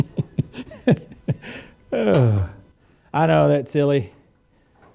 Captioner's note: laughs